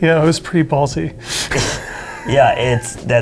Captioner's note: laughter